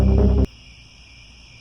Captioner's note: crickets, scary music; crickets